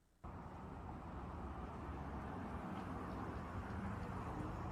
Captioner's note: car engines humming